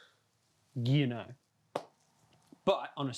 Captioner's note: clap